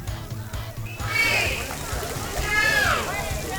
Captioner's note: crowd; upbeat music